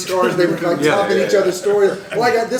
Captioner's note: laughter